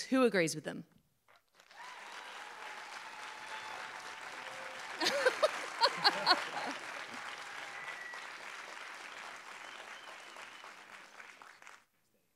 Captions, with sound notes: Who agrees with them? [APPLAUSE, CHEERS] [LAUGHTER]